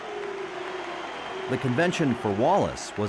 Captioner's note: audience claps and boos